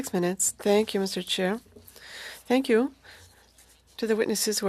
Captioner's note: speaking French